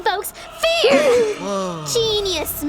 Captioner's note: group gasps